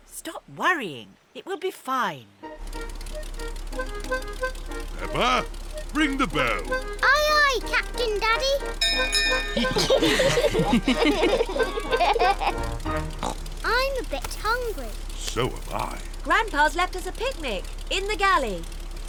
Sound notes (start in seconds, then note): 8.4 bell rings; 9.3 all laugh; 12.7 oinks